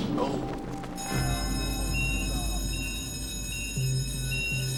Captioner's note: alarm ringing